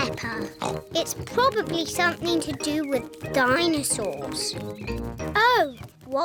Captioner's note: bleats; oinks